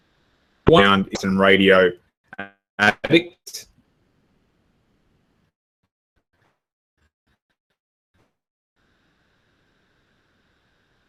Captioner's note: broadcast breaks up